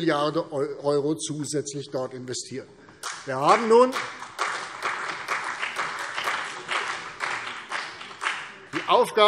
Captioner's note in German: Beifall CDU und BÜNDNIS 90/DIE GRÜNEN